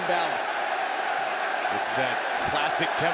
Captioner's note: crowd cheering